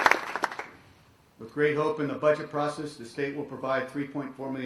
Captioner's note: cheers and applause